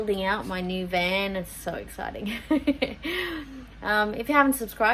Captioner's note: giggles